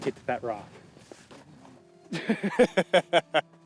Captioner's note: cackling